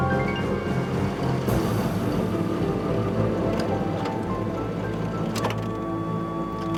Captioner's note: suspenseful music continues; engine rumbling; suspenseful music continues